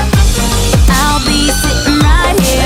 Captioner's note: Sweet Polly Screams